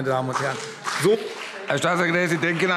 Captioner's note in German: Beifall CDU und BÜNDNIS 90/DIE GRÜNEN